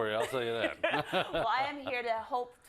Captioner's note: laugh